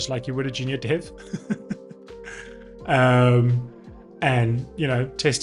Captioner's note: laughs